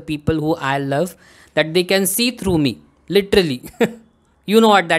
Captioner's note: chuckles